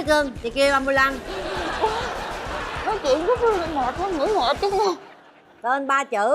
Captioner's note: laughing